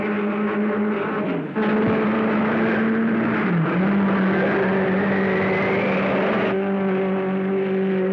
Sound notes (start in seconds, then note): 1.6 car whooshing